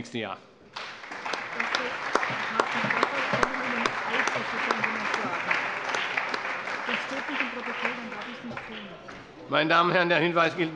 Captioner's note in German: Beifall